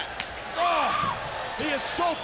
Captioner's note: screaming